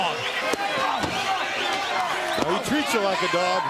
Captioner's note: crowd chatter